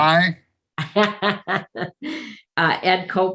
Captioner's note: laughs